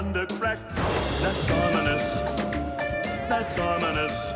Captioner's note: thunder